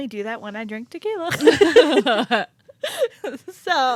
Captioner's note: both laughing